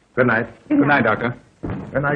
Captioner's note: scoffs